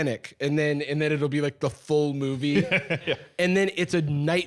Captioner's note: laughing